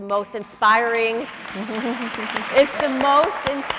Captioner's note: audience cheering